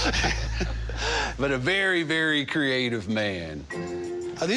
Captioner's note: laughing